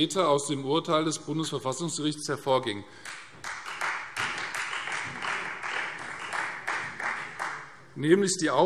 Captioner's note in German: Beifall Freie Demokraten